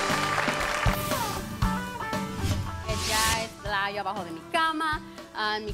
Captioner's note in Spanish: Aplausos